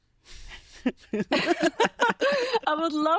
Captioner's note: both laughing